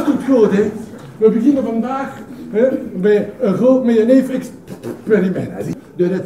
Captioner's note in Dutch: zegt al stotterend